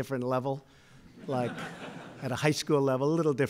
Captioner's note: laughter